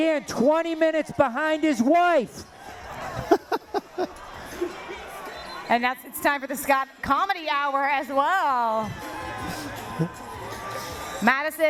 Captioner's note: laughter